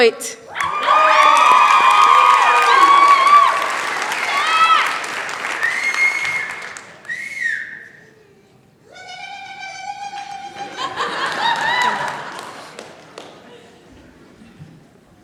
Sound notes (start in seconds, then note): 0.5 cheering, applause; 5.5 whistle; 10.4 laughter